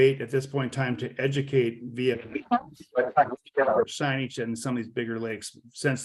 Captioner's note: audio distorted